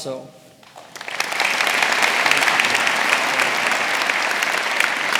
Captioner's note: audience applauding